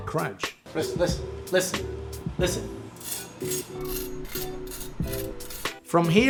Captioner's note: scraping noise